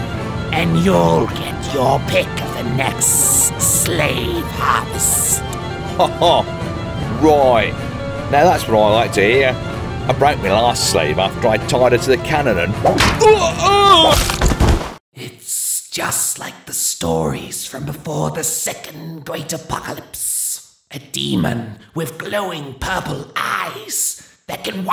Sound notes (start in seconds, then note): 13.2 death grunt; 14.1 swish, crack, thump